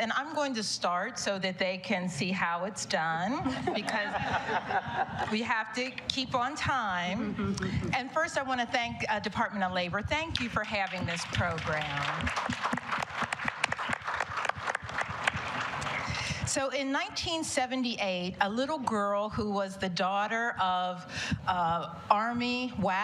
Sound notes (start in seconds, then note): 14.7 applause